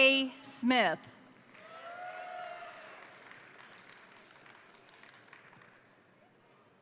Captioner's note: crowd applauding; crowd cheering